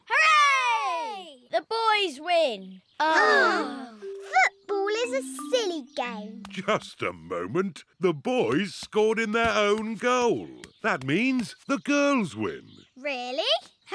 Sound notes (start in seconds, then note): 3.3 all sigh